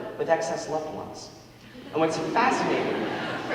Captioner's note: audience laughing